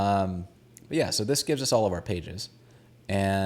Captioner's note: none